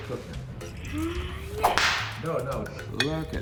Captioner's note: whip snapping; whip snapping